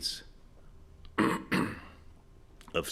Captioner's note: clearing throat